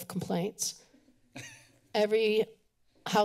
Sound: chuckle

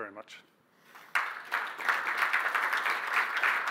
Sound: applause

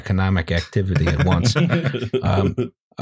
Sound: chuckles; laughter

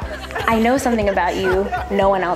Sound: staff members laughs

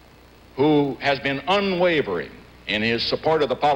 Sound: none

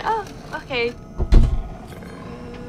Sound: car Creaks

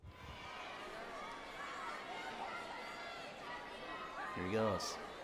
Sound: audience shouting

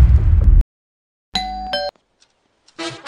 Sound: door Bell

